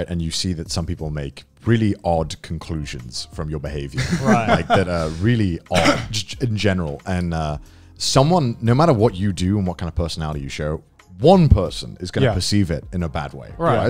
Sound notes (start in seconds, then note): 3.9 laughs